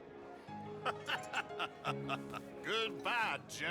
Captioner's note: laughs